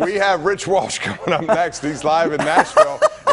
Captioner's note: laughter